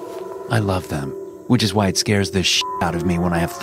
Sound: beep

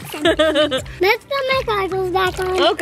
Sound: laughing

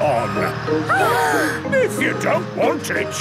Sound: children gasp

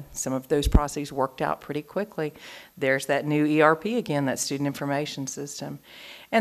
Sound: none

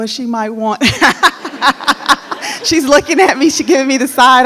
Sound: laughing

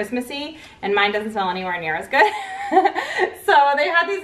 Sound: laughs

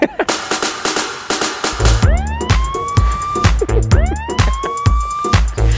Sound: laughing; techno music; laughing

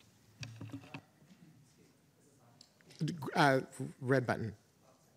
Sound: speaking faintly

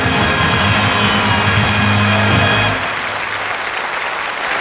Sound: crowd applauds

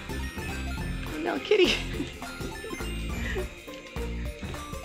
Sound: laughter

